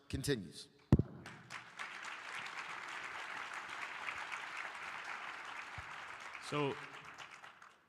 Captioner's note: applause